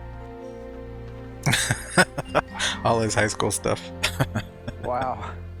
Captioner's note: laughing